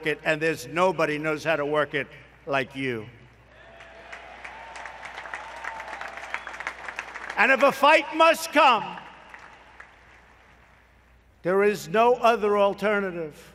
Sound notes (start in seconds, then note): 3.6 applause